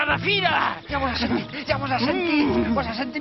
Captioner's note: grumbles